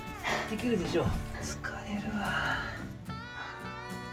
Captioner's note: laughs